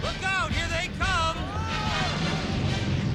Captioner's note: exlaiming